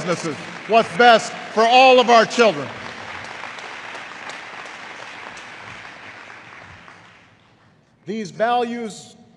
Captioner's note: applause